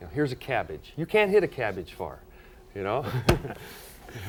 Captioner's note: laughs